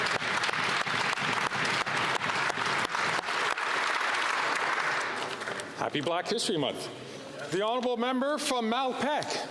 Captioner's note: applause